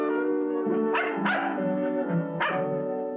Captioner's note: dog barking